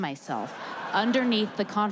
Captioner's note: audience laughing